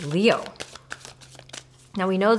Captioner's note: cards shuffling